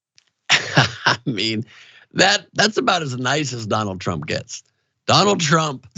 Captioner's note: laugh